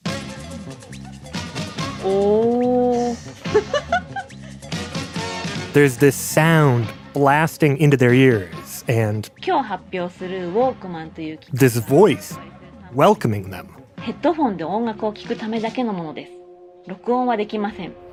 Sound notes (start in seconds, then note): 0.1 lively music plays; 3.0 laughs; 10.5 speaking Japanese; 16.2 speaking Japanese